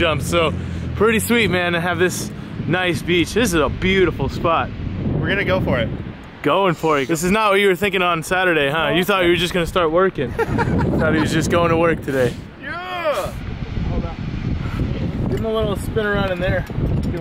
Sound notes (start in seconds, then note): 10.3 laughs; 12.7 cheers